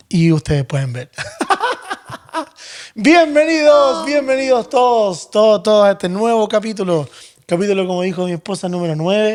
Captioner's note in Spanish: risas